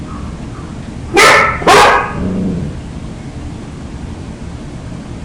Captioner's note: dog barks and growls